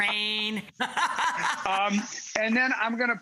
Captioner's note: laughs